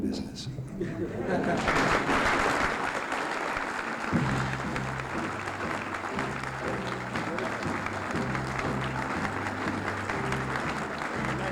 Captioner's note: laughter, applause, music